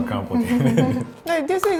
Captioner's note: laughing